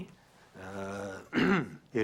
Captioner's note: clears throat